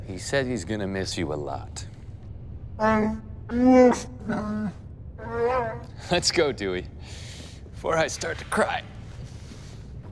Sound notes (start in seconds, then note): 4.1 wookie speak